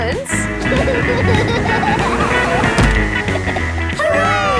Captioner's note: laughing